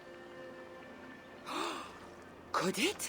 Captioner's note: gasp